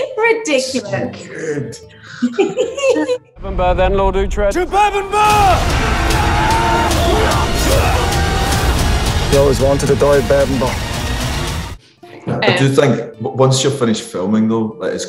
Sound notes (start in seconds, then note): 6.2 warriors shouting